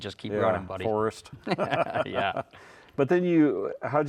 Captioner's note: laughs